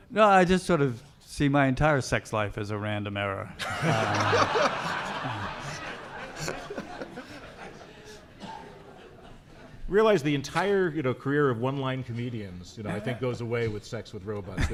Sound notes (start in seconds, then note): 3.6 audience laughing